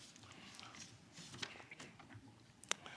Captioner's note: paper rustling